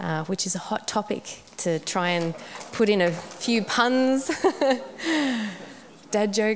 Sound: laughs

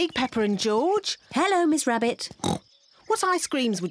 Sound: oinks

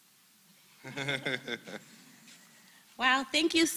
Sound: laugh

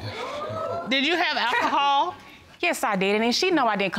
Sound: scoffs

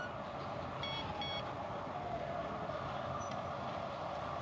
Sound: beeps

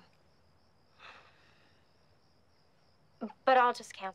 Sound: Dylan sighs

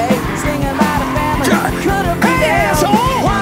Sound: shoes squeak; tires screech; grunts

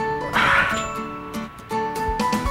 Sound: groans

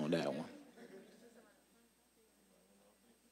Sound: audience chuckling

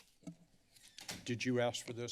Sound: door closes

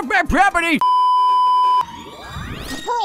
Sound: beeeeeep

